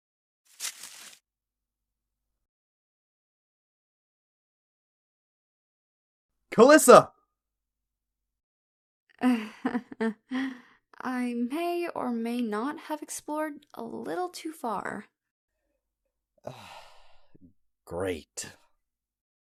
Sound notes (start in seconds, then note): 9.3 nervous chuckle; 16.4 sighs